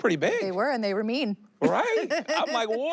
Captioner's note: she laughs